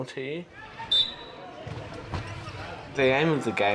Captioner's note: people chattering; whistle trilling